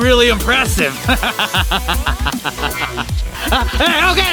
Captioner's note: chuckles